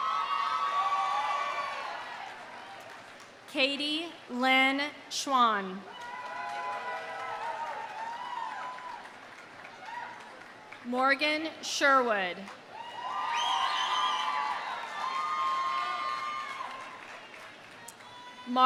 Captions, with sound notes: (audience cheering) (audience applauding) Katie Lynne Schwan. (audience cheering) (audience applauding) Morgan Sherwood. (audience cheering) (audience applauding)